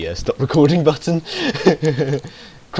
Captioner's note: he laughs